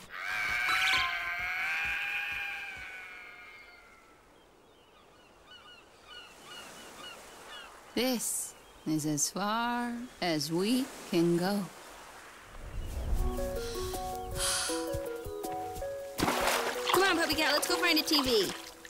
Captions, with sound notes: (crow squawks) (seagull call) This..is as far...as we can go. (sighs) Come on, PuppyCat, let's go find a TV.